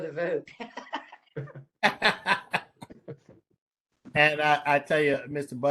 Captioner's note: laughter